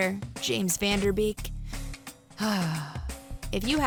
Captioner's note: sighs